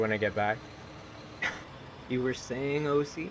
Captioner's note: scoffs